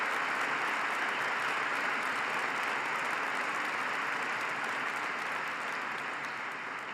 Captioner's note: applause